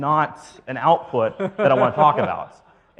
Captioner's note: audience laughs